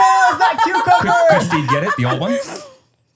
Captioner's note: laughing